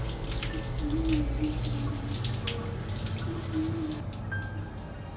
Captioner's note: humming